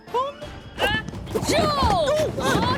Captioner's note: grunts